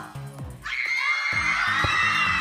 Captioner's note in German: Sie schreien